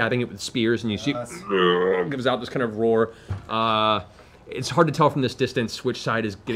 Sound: moaning

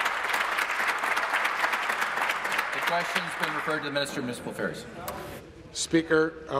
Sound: applause

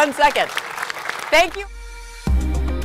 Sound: audience applauding; gentle upbeat music

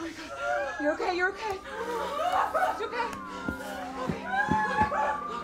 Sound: Fiona moaning

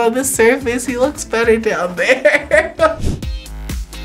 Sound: laughs; upbeat music

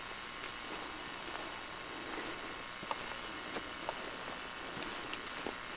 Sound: footsteps

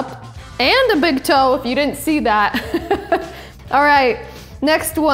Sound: laughing

